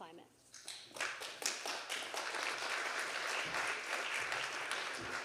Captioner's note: audience applauding